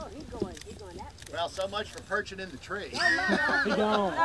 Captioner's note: laughs